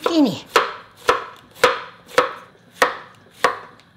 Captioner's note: knife chopping